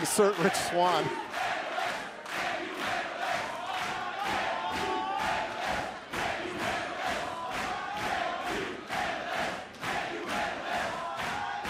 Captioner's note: crowd cheering